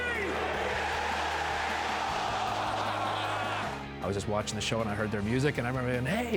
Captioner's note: applause